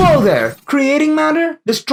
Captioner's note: explosion